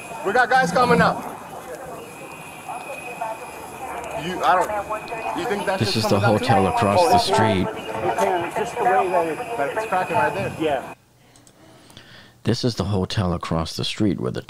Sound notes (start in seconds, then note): 8.0 background talking